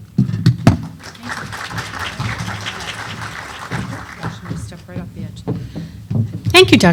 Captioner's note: applause